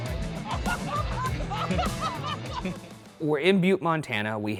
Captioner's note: lively rock music; laughing